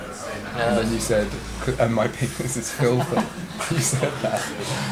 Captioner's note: Eric laughs